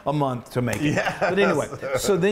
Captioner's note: laughs